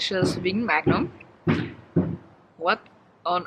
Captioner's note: loud thumping int the background